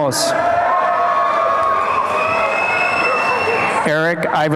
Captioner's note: applause and cheering